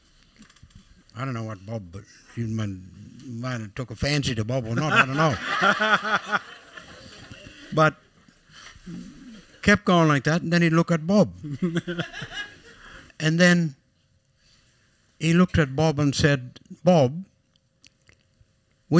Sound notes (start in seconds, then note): 7.8 laughter